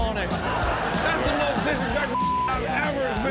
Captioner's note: audience laughs; beep